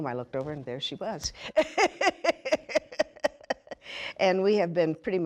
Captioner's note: laughing